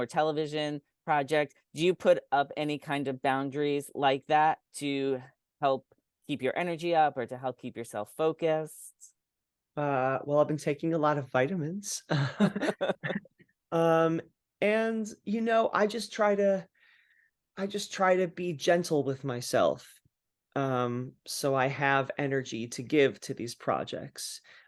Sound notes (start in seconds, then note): 12.1 laugh